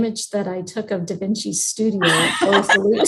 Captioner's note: laughs